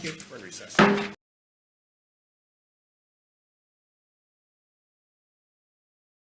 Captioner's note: gavel bangs